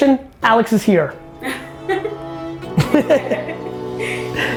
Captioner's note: laughing